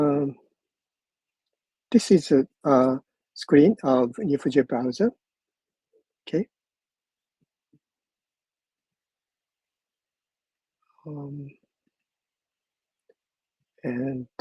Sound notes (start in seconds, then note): none